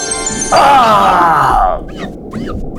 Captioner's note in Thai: เสียงพ่นลมหายใจ; เสียงเช็ดกระจก